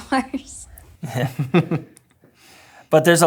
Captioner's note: all chuckle